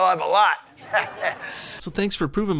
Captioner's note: Crowd and Bill laugh